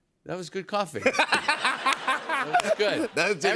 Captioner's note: laughs